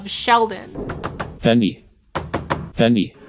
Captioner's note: robotic voice